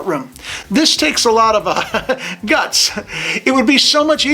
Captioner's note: chuckles